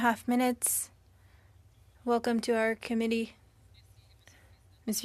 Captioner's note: speaking French